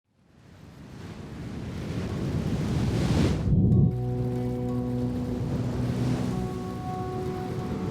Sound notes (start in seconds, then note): 0.4 waves crashing; 0.5 gentle music